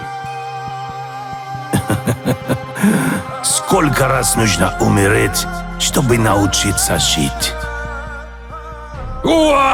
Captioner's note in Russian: смех